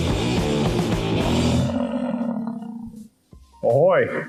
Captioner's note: buffalo grumbling